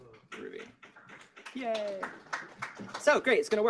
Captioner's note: applause